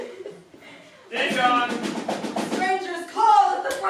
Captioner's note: knocking sounds